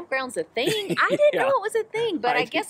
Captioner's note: laughs